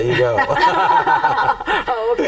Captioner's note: group laughing